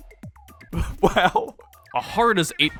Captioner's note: nervous chuckle